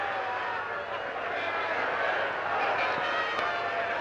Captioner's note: crowd shouting